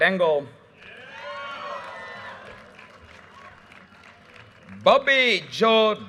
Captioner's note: audience cheers and applause